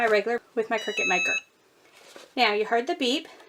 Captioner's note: EasyPress beeping